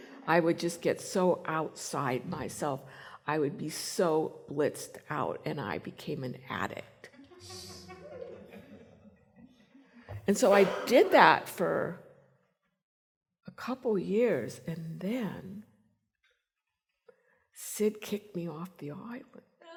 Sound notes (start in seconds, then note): 7.2 chuckles